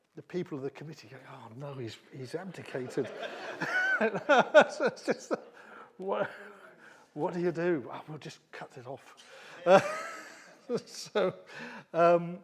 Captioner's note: laughter